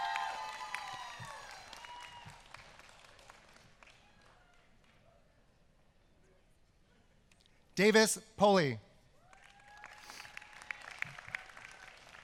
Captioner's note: applause